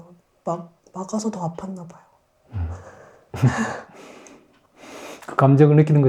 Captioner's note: slight laugh